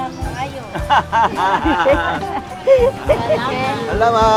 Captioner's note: everyone laughing